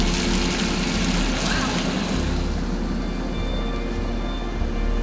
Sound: pensive music; hoses whooshing; pensive music

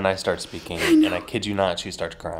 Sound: laughing

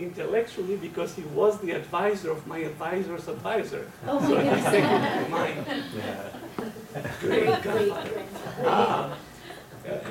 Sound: laughter

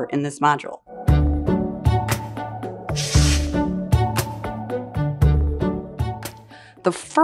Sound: gentle music; air whooshes

